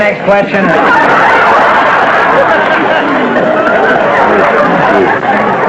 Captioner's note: raucous laughter